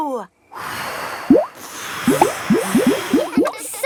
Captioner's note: all blowing